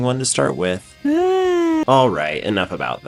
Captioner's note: yawn